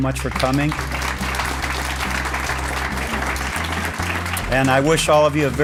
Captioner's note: applause